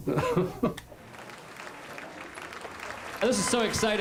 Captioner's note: laughs; crowd applauding